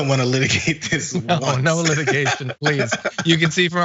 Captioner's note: laugh